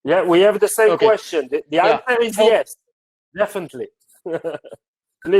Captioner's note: chuckles